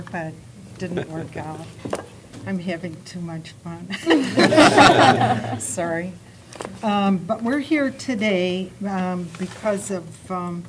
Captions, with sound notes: IT DIDN'T WORK OUT. I'M HAVING TOO MUCH FUN. [ LAUGHTER ] SORRY. BUT WE'RE HERE TODAY BECAUSE